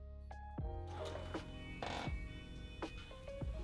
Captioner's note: sirens